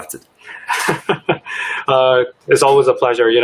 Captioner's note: laughs